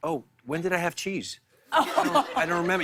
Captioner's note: light laughter